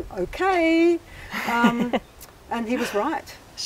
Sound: laughs

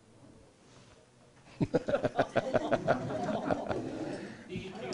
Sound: laughing

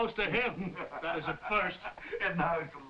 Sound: Jakob laughing

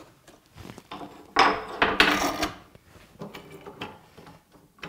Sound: wood clicks

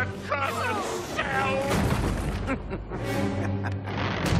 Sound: chuckling

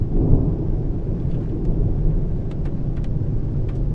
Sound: thunder rumbles

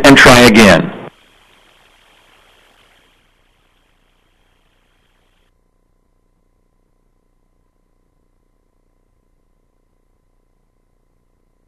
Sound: no speaking

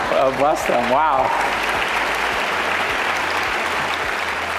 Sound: audience clapping

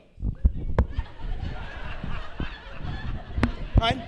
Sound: laughter

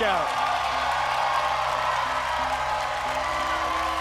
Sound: cheering

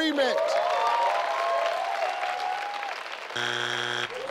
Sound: audience cheers

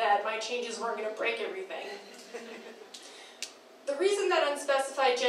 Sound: crowd laughing

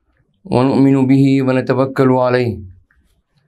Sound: arabic

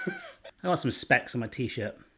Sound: chuckling

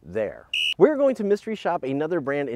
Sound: whistle blows

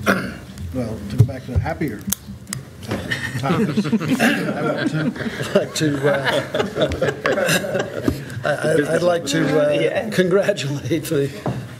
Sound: laughter

